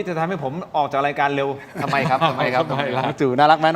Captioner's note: laughs